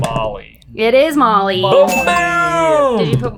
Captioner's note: bell dings